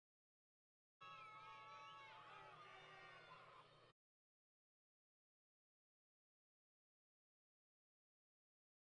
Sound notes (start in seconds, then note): 1.0 crowd Yelling